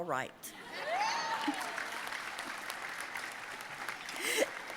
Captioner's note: audience applauding